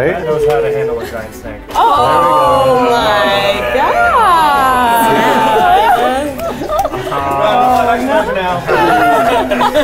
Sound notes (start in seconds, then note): 2.2 crowd; 4.5 laughing